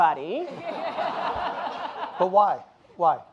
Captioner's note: audience laughing